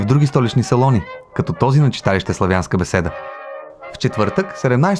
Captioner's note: slavic discussion